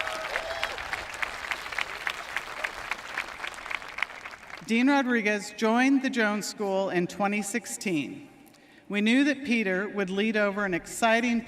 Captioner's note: applause